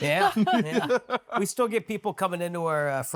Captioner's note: everyone laughing